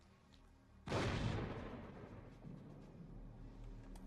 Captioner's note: periodic explosions